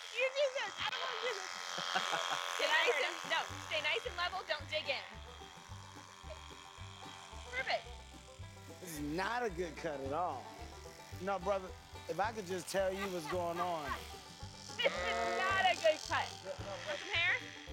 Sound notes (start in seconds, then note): 14.7 laughing; 14.7 bleating